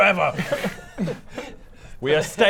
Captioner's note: understanding laughter